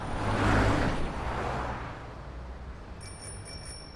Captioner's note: sound of traffic